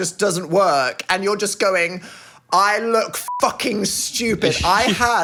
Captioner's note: beep